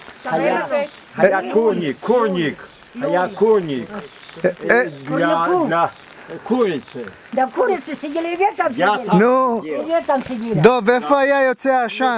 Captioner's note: speaks Ukrainian